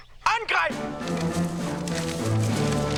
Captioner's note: speaking german